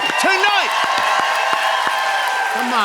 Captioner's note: cheers and applause